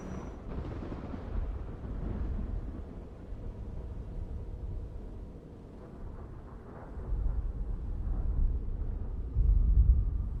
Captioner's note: thunder rumbles ominously; thunder rumbles